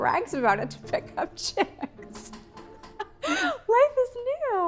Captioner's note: laughs